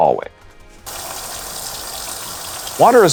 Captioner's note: water running